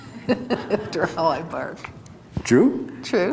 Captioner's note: laughs